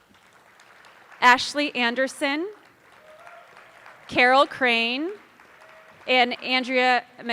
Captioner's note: attendees applauding; attendees cheering